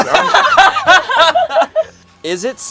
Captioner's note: everyone laughs